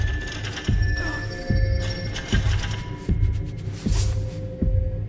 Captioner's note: Max grunting